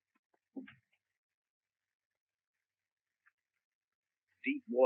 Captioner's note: door thuds